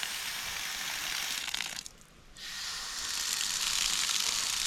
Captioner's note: water spraying